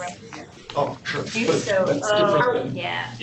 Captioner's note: indistinct chatter